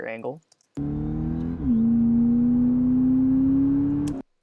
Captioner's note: engines revving